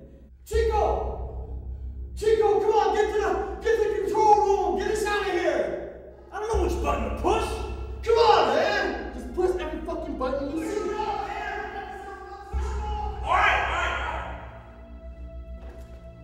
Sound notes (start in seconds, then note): 10.5 yelling